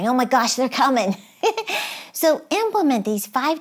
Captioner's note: giggles